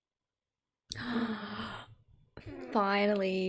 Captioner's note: gasp